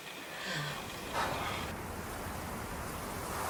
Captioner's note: exhales